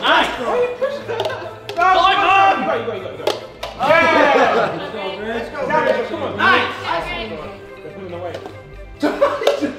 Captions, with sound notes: - Nice. (shouting) - Let's go. - Nice.